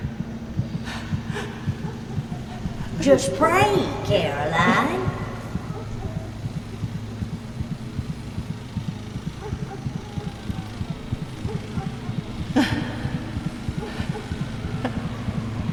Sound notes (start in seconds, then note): 8.5 dogs barking; 11.5 Caroline moaning